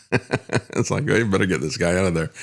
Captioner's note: laughs